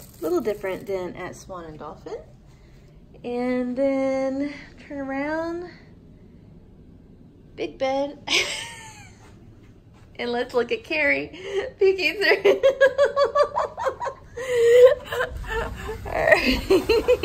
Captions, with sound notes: Little different than at Swan and Dolphin. And then turn around. Big bed (laughs). And let's look at Carrie. She keeps her (laughs). All right.